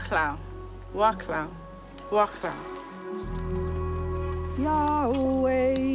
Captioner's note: woman speaking in foreign language; woman singing in foreign language